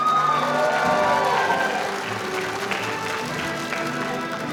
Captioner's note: audience cheering; band playing